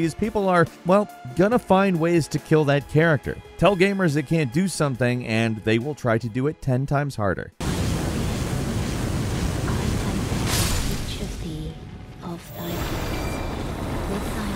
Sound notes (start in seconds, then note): 7.6 roaring fire